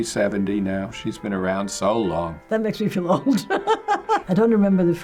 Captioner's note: laughs